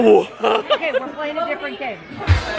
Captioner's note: laughs